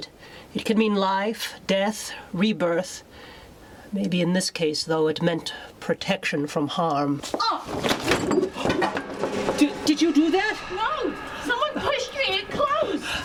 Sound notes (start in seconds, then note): 7.4 Alice groans; 7.7 door bangs